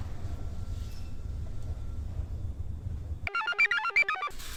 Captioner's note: device beeps; computer chirps